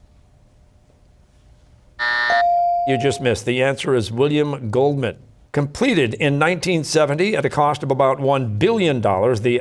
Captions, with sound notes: (buzzer, ringer dings) You just missed. The answer is William Goldman. Completed in 1970 at a cost of about $1 billion,